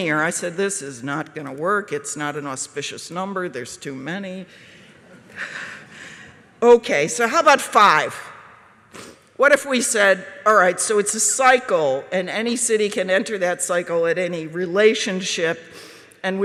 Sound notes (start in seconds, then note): 4.9 laughter again from the audience